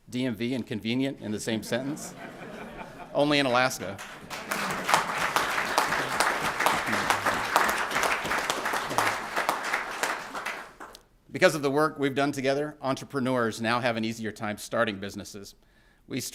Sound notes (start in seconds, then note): 3.5 applause